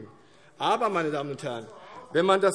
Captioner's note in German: Zuruf